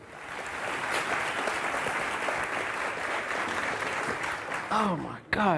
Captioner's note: audience applauding